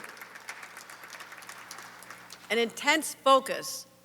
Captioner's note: applause